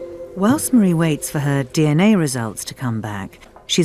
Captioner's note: voiceover